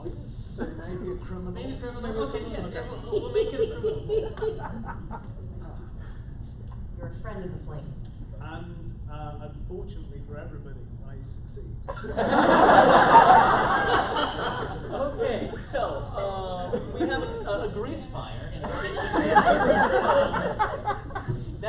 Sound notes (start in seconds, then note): 11.8 laughter; 18.6 laughter